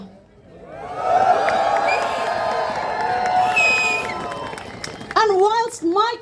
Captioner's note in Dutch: Gejuich